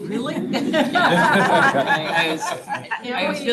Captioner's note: all laughing